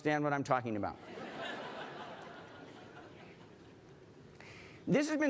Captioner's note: laughter